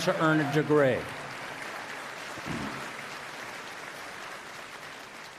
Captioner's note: applause